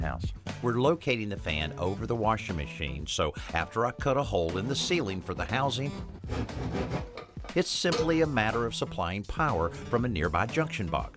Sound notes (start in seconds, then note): none